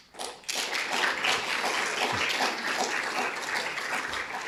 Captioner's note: audience applauding